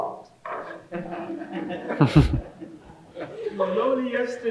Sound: all laughing

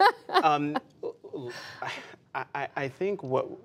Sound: laughter

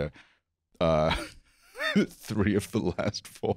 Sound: laughs

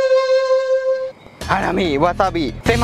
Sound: mumbling in Japanese; mumbling in Japanese continues

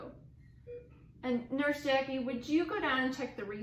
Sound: beeping

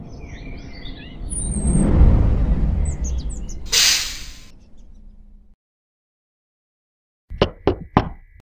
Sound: car engine; door creak

